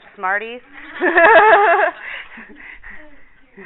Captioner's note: audience laughter